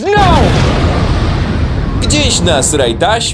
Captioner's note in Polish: boom!